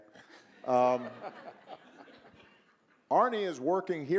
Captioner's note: audience laughing